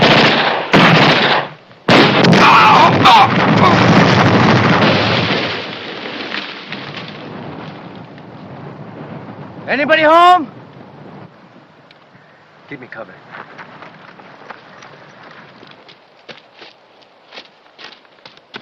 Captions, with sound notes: [SCREAMS] Anybody home? Keep me covered.